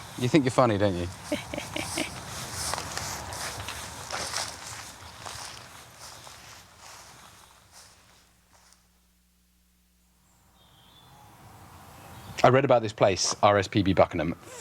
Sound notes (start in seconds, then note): 1.1 chuckles; 2.7 footsteps